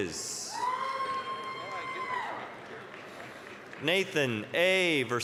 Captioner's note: applause, cheering